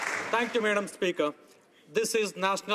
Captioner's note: some Applause